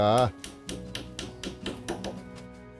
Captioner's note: hammering sound